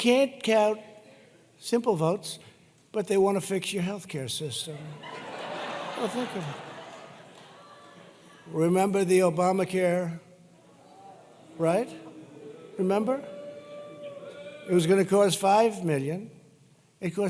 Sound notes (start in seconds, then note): 4.7 laughter